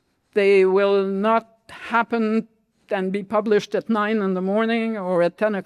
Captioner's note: none